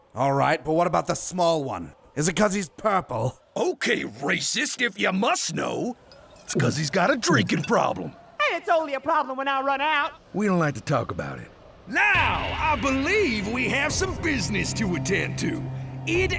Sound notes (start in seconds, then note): 7.2 glug; 8.0 glug ~ glug